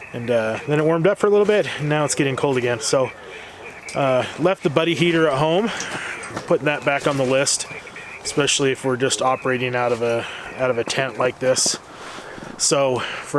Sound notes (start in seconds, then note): 9.2 radio noise